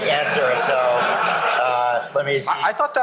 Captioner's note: laughter